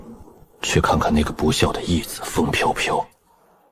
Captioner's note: wind drifts